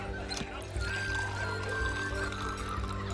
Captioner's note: wine pouring